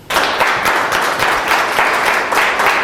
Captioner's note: students applaud